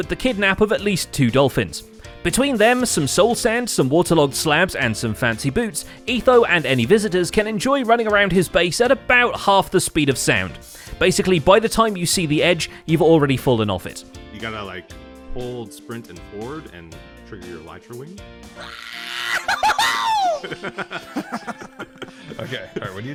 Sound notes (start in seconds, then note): 18.6 excited Grian noises; 19.0 others laugh